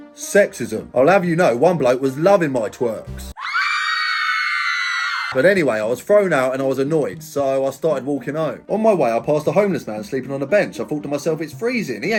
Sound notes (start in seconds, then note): 3.3 people screaming